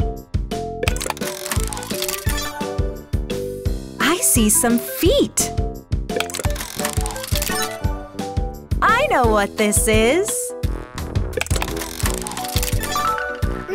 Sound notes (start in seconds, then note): none